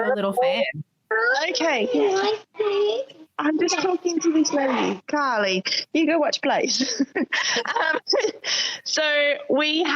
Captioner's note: child’s voice